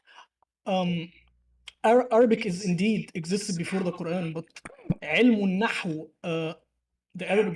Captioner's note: Arabic